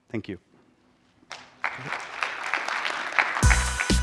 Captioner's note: applause; theme music playing